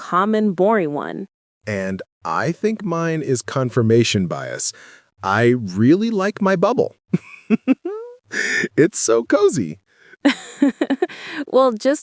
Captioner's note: laughs